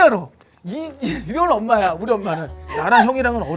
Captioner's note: tearing up